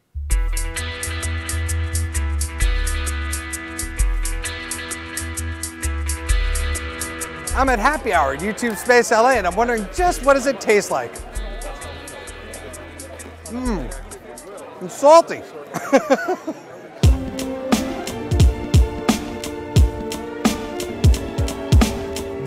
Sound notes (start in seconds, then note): 15.7 laughs